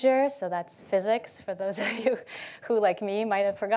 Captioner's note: chuckles